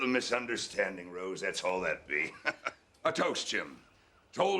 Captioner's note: chuckling